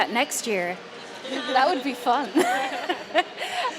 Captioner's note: laughs